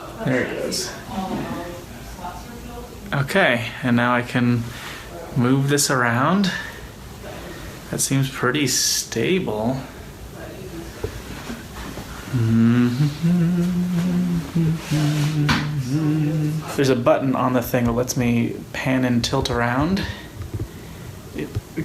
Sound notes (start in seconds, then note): 12.3 hums